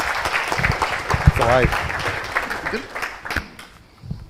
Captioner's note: audience applauding